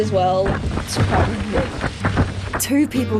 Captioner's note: wind rustles loudly